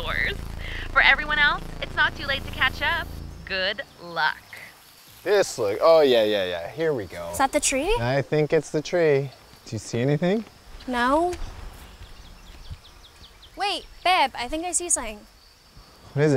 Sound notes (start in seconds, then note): 12.1 birds chirping